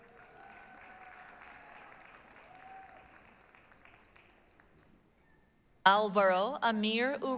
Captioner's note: applause, cheering